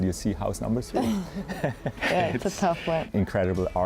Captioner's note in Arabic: يضحك